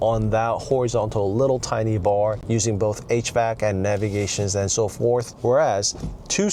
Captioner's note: hvac